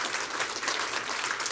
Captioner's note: applause